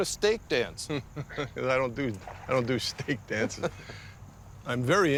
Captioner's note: chuckling